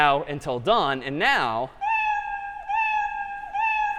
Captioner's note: meowing